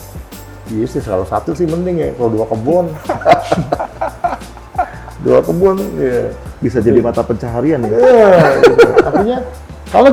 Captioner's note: laughs